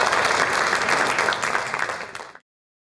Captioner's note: applause